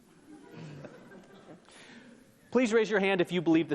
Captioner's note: audience laughs